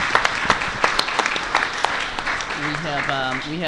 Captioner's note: applause